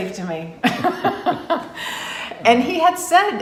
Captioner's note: laughs